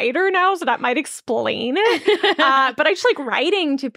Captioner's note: laughing